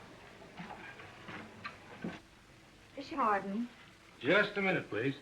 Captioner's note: none